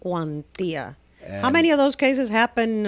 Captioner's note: Hablando ingl\s